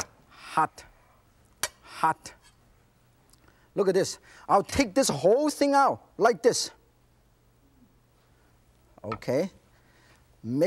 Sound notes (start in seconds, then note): none